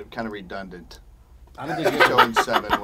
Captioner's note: Pat laughs